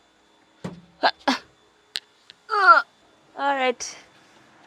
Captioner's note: grunts